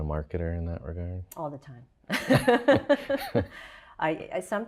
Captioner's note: laughing